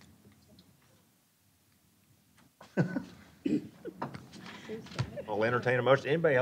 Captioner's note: chuckling